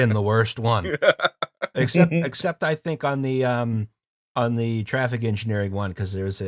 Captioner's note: laughter